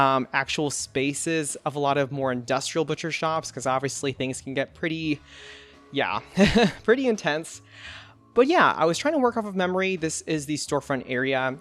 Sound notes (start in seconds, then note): 6.3 laughs